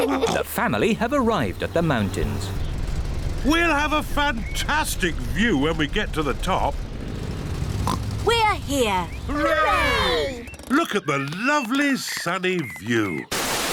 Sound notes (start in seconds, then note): 7.8 oinks